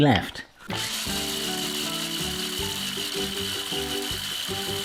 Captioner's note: grinder buzzing softly